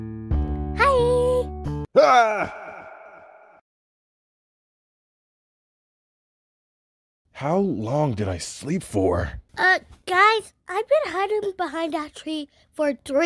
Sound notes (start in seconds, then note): 2.0 Red Screams